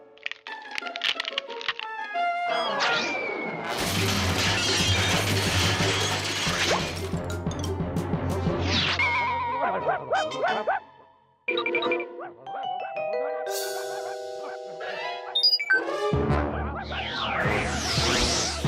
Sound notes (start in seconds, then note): 0.0 cracking; 3.1 whistling; 3.8 crashing; 9.6 barking; 15.4 beeping; 17.2 barking and mumbling continue